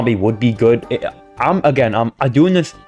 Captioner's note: stutter Moment